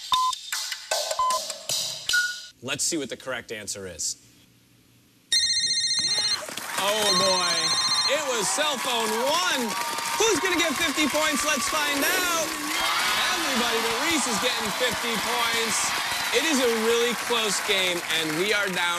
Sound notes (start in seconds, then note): 0.9 electronic beeping; 7.0 phone beeps brightly